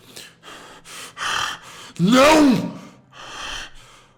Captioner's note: harsh breathing